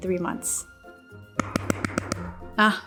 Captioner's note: knocking